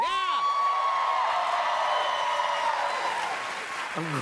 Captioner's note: cheers and applause